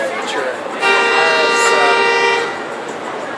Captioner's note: long Car Honk